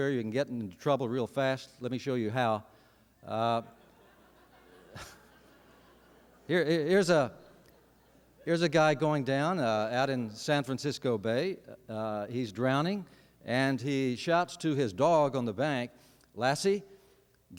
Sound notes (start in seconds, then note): 3.7 laughter